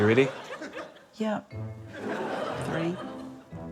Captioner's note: laughter